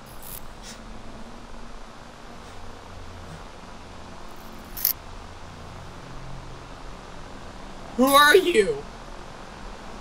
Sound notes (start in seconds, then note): 4.8 lights flickering